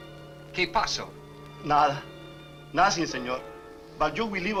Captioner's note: Mario speaks Spanish